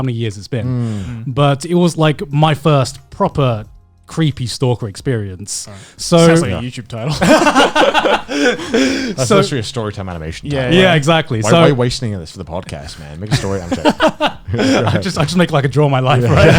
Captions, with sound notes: but it was like my first proper, creepy stalker experience. - Sounds like a YouTube title. (laughing) - I feel like that your story animation title. - Yeah, exactly so-- - Why are you wasting us at the podcast, man. Make your story a little bit later. (laughing) - I just feel like I can draw my life, right?